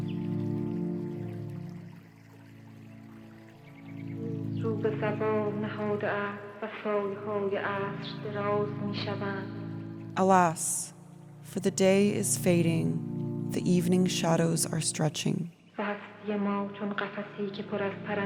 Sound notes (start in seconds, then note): 1.7 chanting in Farsi; 5.6 soundbite of film, "the house is black"